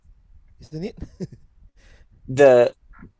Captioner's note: chuckles